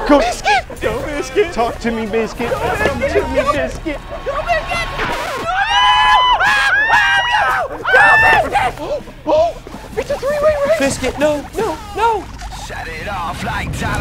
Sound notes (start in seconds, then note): 4.8 record scratch; 5.5 yelling; 12.8 singing